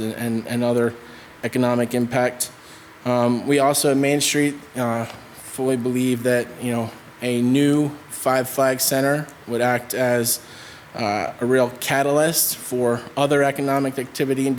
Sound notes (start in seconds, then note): none